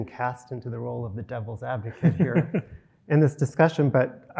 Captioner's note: both laughing